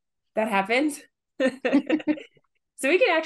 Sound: laugh

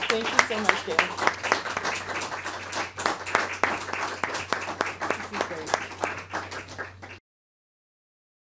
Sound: applause

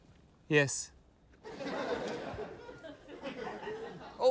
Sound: laughter

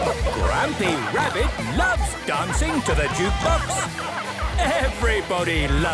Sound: shouting

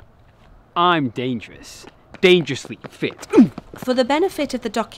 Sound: groans

